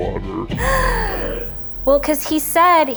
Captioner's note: gasps